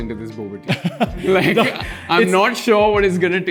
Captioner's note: laughs